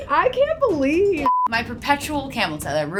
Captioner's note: beep